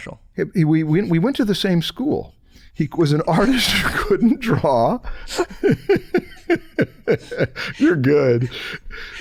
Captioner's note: chuckles